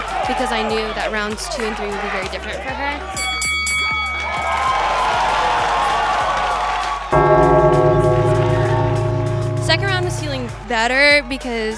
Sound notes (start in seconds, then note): 3.2 bell rings; 7.1 gong